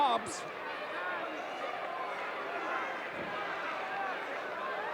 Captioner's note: audience cheering